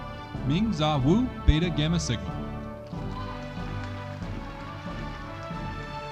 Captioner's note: audience applauding